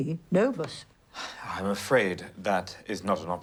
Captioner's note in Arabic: تنهد جيم